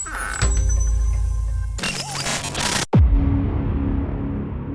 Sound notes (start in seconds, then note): 0.1 dramatic music; 1.9 static reverberating; 2.9 dramatic music